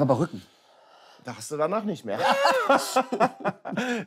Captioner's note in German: Lachen